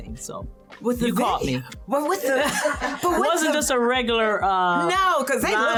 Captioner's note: laughs